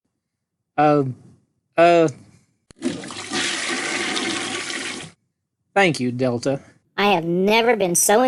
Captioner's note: flushing noise